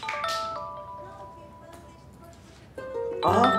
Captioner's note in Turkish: Telefon çalıyor